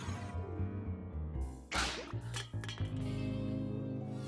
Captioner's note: crash! rattle!